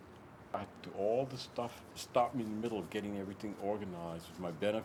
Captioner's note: none